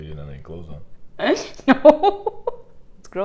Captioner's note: laughing